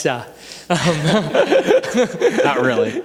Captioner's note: panelists chuckle